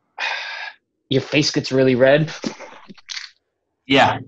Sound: exhales; imitates frustrated grumble

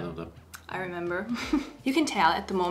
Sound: chuckles

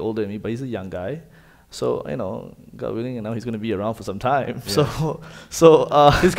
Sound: chuckles

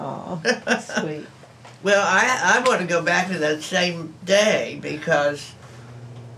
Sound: laughs

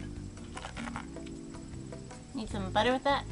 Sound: crunching

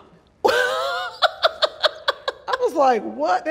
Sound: laughs loudly

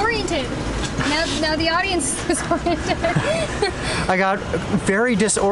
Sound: laughter

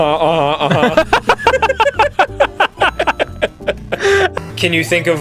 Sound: both laughing

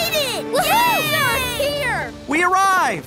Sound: horn blowing

